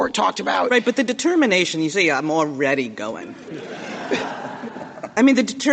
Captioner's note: laughter